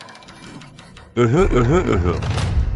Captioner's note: cough